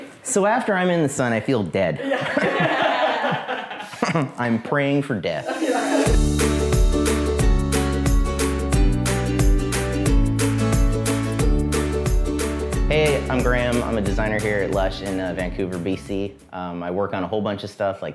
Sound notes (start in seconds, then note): 2.0 background laughter; 6.3 happy music